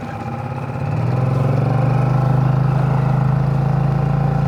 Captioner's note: motor revving